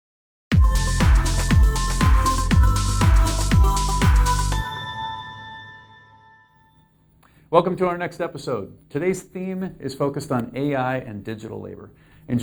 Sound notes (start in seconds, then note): 0.5 upbeat techno music; 4.5 chime dings